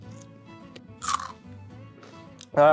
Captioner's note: asmr crunch